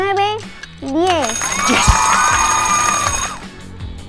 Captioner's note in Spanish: gritos y aplausos